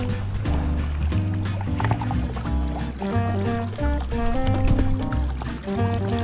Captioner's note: gurgle